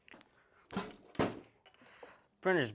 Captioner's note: thunk; thud